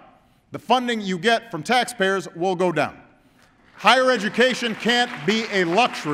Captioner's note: applause